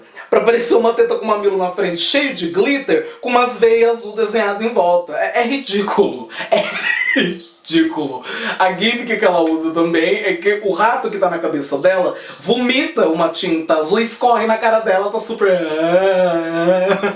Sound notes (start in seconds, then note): 6.3 laughs